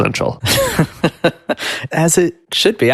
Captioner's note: chuckles